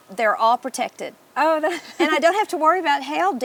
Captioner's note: laughs